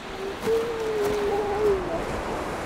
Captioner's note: seal moaning